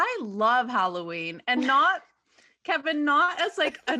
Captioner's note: laughs